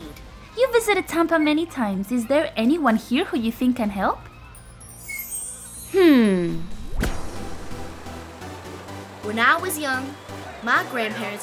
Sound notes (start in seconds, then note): 4.5 chimes twinkle